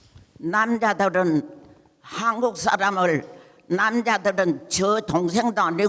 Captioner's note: speaking in foreign language